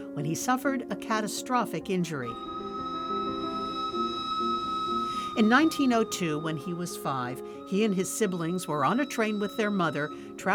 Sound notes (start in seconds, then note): 2.2 train whistle blowing